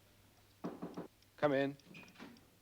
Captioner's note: knocking on door